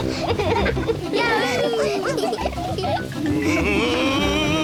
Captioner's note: all giggle